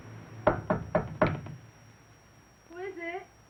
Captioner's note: knock at door